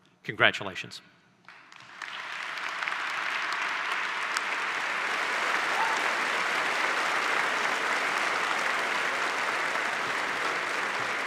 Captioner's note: applause